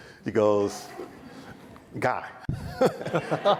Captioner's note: audience laughs